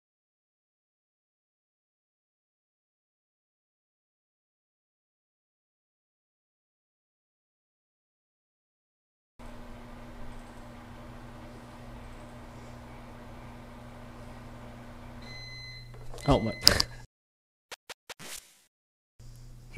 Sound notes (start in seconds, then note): 9.4 microwave humming; 16.7 click